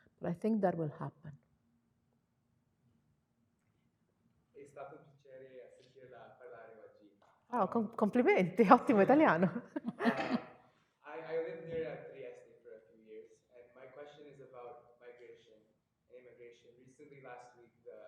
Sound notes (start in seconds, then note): 7.7 speaking Italian